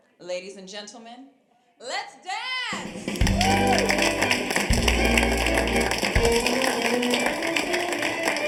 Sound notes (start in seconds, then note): 2.8 group clapping; 3.2 upbeat music